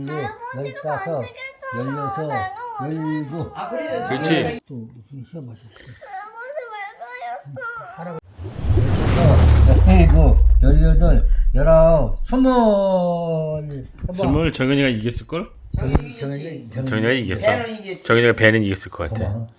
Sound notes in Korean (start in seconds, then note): 5.2 폭발